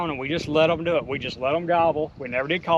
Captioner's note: none